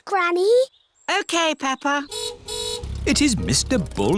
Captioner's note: car horn honks